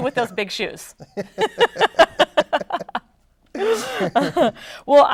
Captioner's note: both laughing